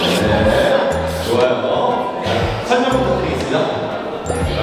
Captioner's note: laughing muted at the cherished item from the past